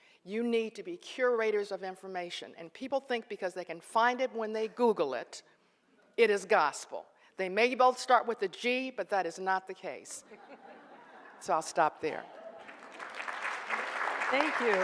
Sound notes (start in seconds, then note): 10.3 audience laughs; 12.3 audience applauds